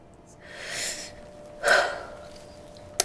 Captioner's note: Naomi sighs